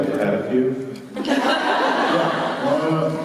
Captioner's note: laughter